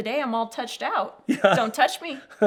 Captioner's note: laughing